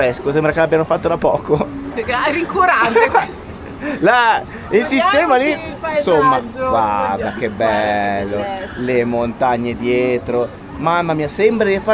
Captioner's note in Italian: risate